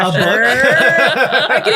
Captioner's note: all laughing